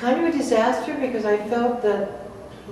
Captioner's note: Arabic